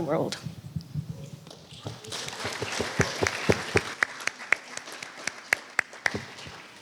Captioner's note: applause